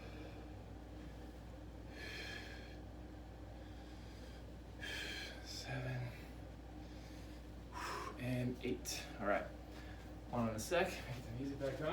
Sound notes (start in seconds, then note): 0.1 breathing; 6.7 breathing; 6.7 breaths